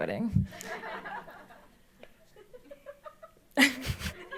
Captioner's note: audience laughs; laughs